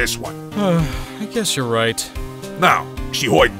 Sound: sigh

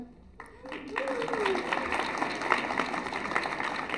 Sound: applause

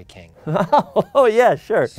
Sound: Ben laughs

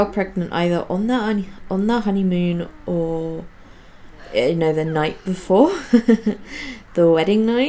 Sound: laughs

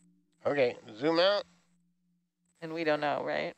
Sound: male Voice

